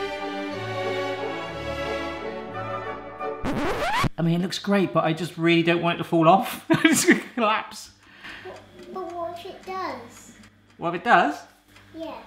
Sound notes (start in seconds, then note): 6.9 laughs